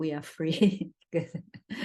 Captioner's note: laughs